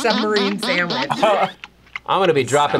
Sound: laughs

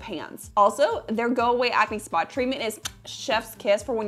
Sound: kisses

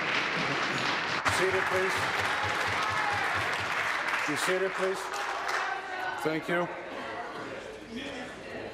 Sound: applause

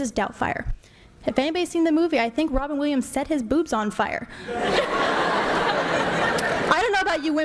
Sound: laughter

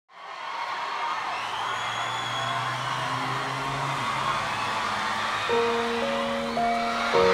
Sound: audience cheering

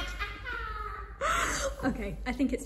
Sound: evil witchy laugh

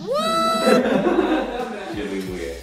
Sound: laugh

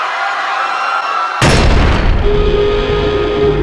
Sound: thump

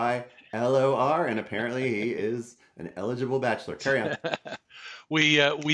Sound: laughs

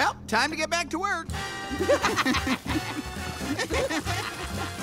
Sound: laughter

